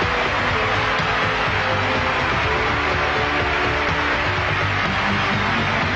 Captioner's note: crowd cheers and applauds; upbeat music